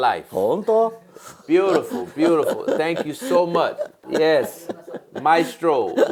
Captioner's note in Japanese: 笑い